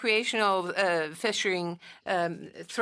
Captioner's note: speaking French